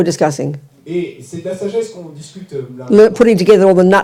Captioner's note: French